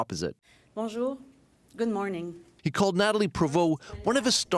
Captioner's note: speaking French